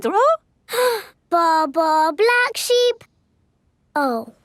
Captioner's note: inhales